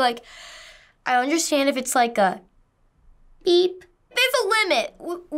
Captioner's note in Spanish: suave